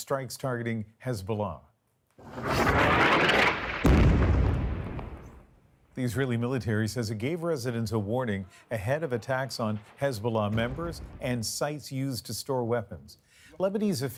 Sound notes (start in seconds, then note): 3.7 bombing